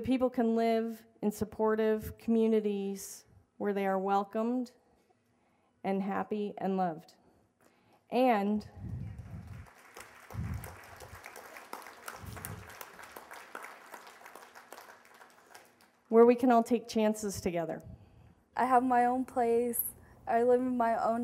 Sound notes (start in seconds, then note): 8.8 applause